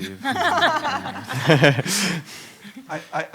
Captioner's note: panelists laugh